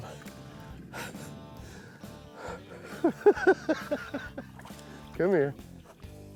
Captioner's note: laughs